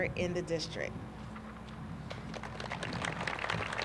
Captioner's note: applause